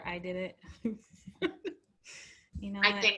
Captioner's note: laugh